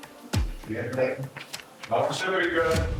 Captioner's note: inmates chattering